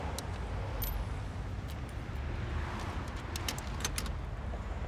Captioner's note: coins clanging